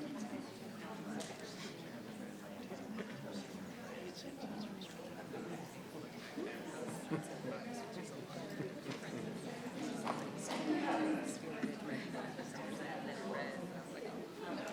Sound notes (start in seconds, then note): 6.2 chattering continues